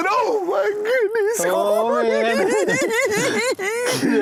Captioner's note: giggling